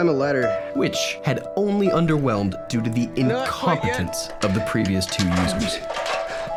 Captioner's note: narrating